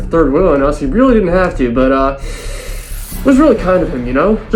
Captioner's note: inhales through teeth